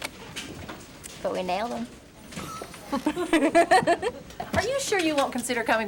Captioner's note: both laughing